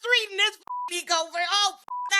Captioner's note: beep